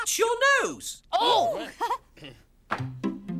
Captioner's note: laugher